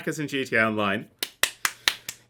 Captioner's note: clapping